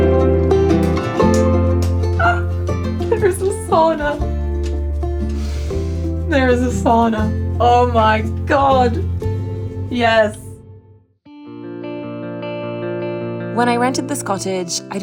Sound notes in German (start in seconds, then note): 2.0 quietscht